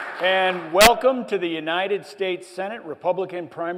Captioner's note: applause